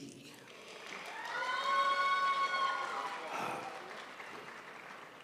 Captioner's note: crowd applauds